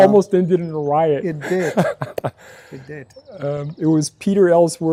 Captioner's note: clapping hands